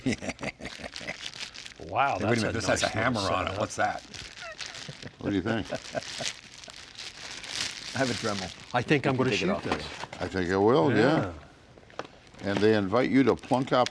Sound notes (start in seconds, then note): 0.0 laughs; 7.1 packaging rustling